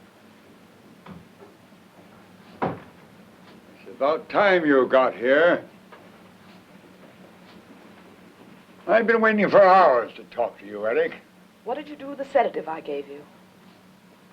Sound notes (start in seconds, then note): 2.5 door closes